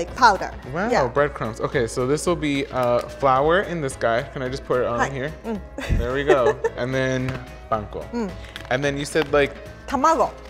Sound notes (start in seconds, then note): 5.8 laughs